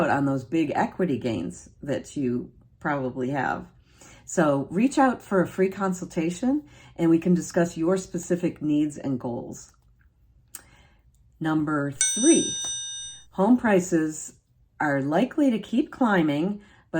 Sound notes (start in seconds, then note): 11.9 bell dinging